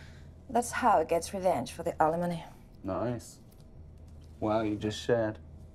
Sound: none

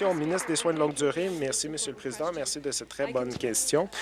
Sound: applause

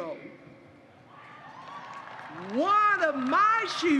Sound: applause

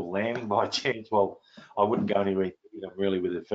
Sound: laughs

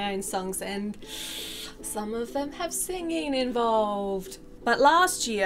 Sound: inhales through teeth

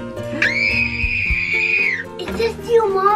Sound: girl screaming

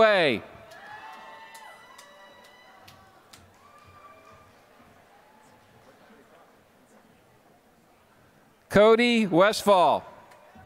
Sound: applause; applause

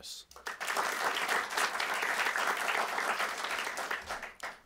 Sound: applause

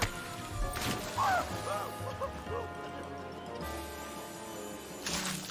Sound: Handy yelling; Handy panting; water splashing; blood spattering

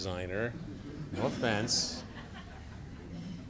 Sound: mild laughter

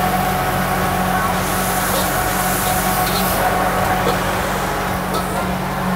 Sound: food frying loudly; air conditioner blowing loudly

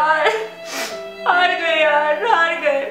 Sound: crying

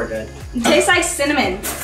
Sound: laughing

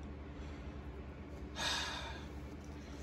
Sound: sighs

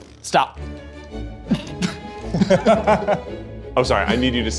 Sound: everybody laughs

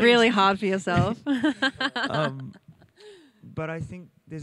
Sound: laughs

